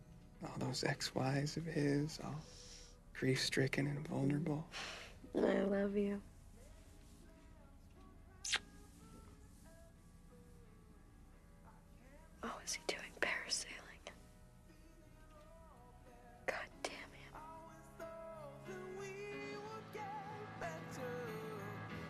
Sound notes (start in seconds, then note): 8.4 smooches